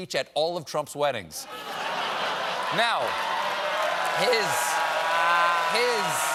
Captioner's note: cheers; laughter